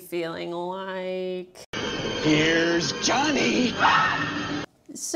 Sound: scream

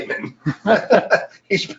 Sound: man laughing

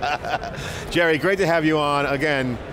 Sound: laughs

